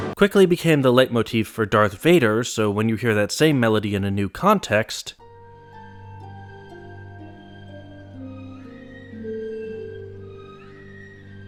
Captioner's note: bang; bang